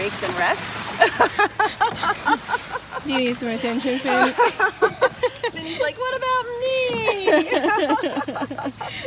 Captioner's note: laughing